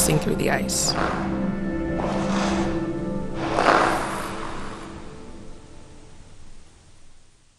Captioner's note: soundbite of wind and blades on ice